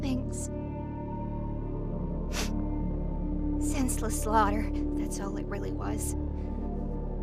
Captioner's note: sniffles